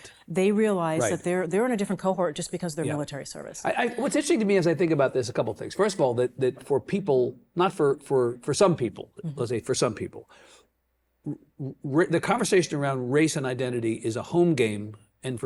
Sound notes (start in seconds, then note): none